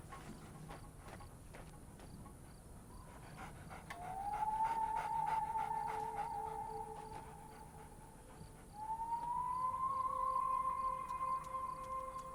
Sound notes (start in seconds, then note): 3.4 coyote panting; 4.0 eerie music playing